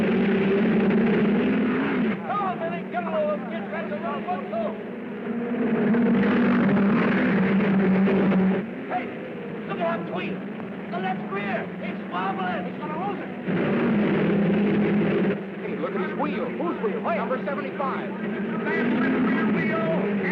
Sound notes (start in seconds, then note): 5.6 cars revving